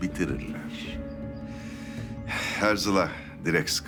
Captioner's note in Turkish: İç çekme sesi